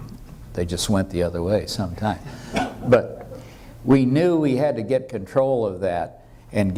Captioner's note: laughter